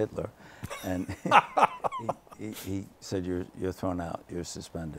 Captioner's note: laughter